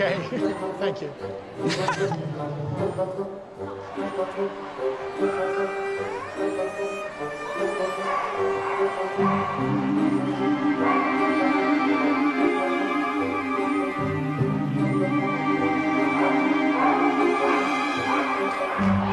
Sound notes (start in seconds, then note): 1.6 laughs; 3.3 whimsical music; 8.9 dogs barking